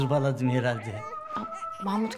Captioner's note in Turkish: Bebek ağlama sesi